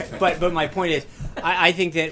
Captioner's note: laughter